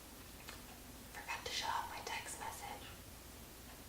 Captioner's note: whispers